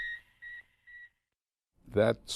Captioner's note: beeping